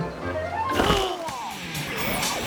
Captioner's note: lively music; groaning; energetic rock music